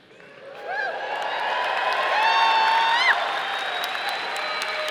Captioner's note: audience applauding